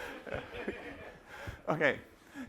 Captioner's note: laughter